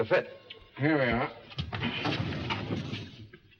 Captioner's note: doors open